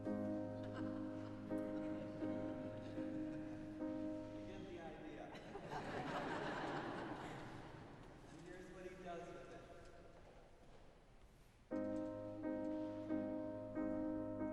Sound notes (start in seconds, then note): 0.9 audience laughing; 11.7 piano playing